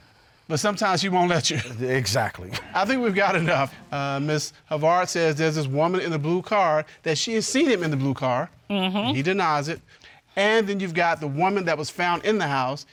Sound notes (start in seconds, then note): 1.4 judge laughs